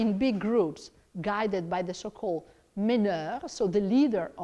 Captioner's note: speaks in foreign langauge